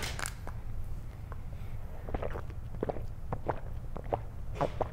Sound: chugging

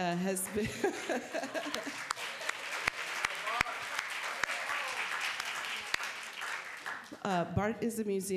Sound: applause

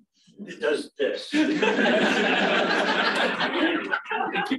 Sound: laughter

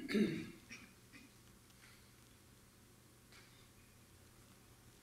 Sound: audience member coughing; audience member clearing their throat

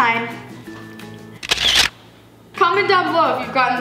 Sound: camera shutter

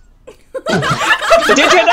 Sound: laughter

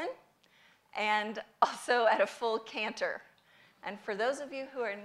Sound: none

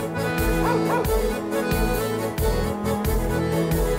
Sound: dog barks

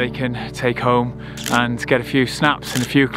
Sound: camera shutter clicks

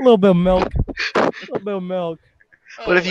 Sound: whimpering

